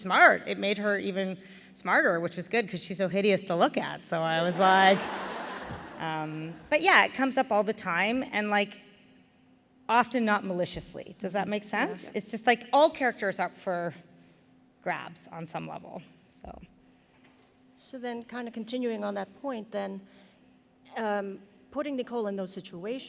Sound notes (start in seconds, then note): 4.5 laughter